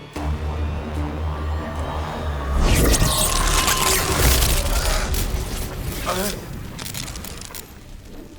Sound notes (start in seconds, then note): 0.0 music intensifies; 2.6 crackling; 4.9 gasps